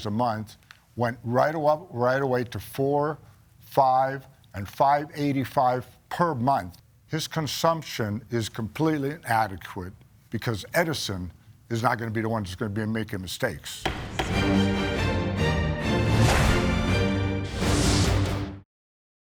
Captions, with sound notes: a month, went right away to four, five, and 585 per month. His consumption is completely inadequate because Edison is not gonna be the one that's gonna be making mistakes. (gavel bangs) (dramatic music)